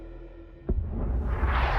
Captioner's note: asteroid whooshing